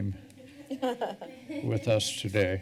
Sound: laughing

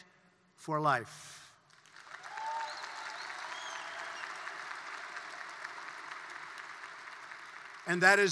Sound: applause

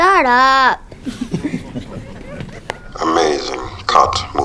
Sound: laughter

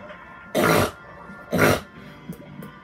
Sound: snorts 2x

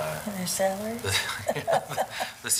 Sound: laughing

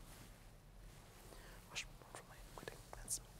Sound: whispering

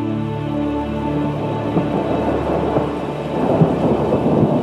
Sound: thunder Rumbling

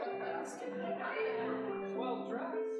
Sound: audience laughing

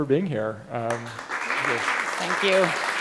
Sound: applause

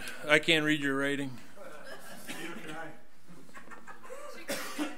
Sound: overlapping chattering

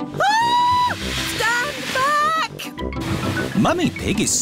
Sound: shrieks

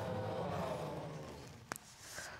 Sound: audience gasping

